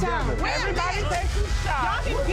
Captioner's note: people speaking indistinct